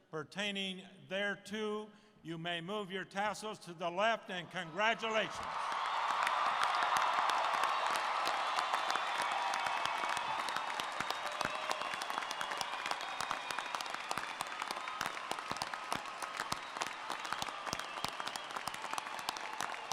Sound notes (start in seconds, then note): 9.1 applause